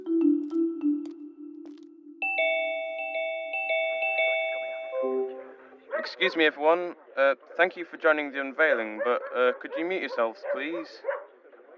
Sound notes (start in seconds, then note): 3.5 general hubbub of many people logging into a zoom call. a dog barks